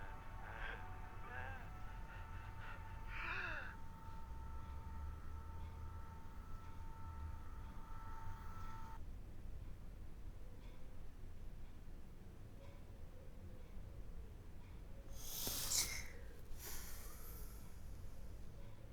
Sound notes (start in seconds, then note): 3.0 victim gasping sharply; 16.6 Linda gasping sharply